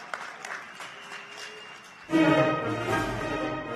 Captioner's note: cheers and applause